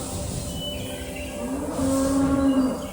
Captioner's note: cows mooing; air hissing